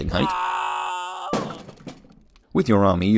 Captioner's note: muffled sounds of anti-gnome violence